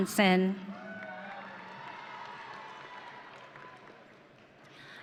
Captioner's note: audience cheering